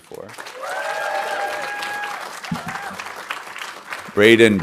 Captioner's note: audience applauding